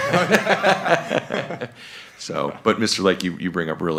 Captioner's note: both laugh